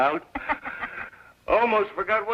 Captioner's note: laughs